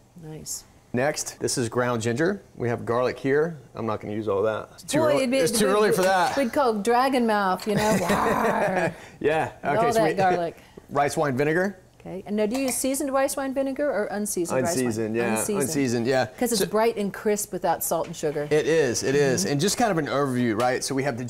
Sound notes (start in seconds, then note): 7.7 laughs; 7.9 growls